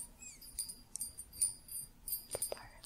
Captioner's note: jingling